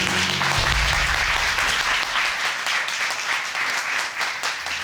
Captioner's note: applause